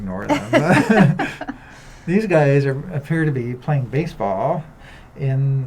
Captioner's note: laughter